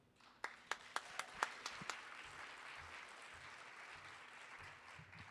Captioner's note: audience applauding